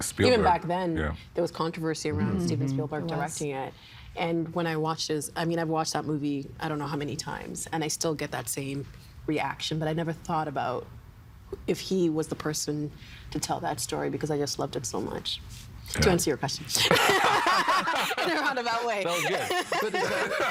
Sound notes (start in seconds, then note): 16.8 laughing